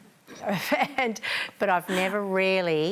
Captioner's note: laughs